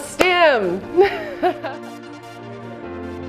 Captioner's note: laughs